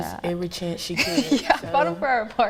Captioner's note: laughs